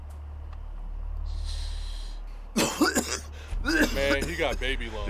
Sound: inhales weed

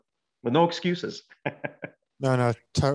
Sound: he laughs

